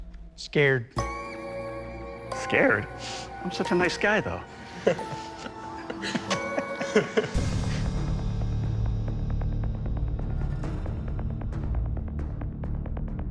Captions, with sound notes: Scared. Scared? I'm such a nice guy though. [laughter] [tense music playing]